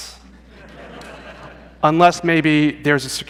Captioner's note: laughter